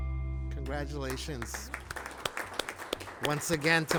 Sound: group clapping

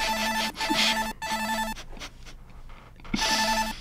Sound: quietly; distorted ringing; snickering

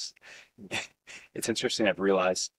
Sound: laughter

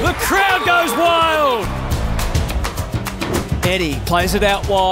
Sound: cheering

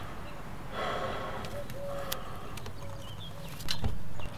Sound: takes A Deep Breath

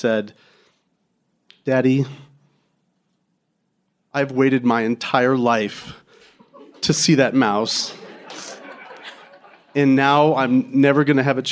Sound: crowd laughing

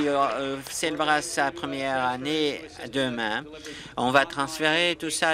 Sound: applause

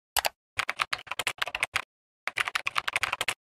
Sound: keyboard clacking

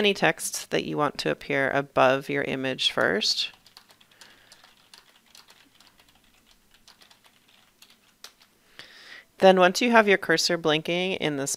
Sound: typing

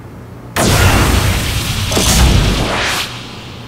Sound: dying Sounds

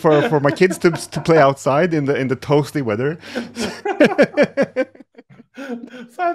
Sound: chuckles

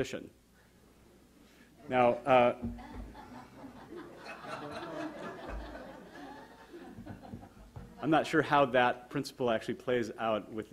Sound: audience laughter

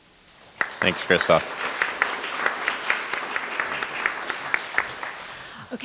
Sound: applause

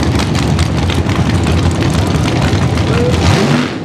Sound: nostalgia gassers drag racing

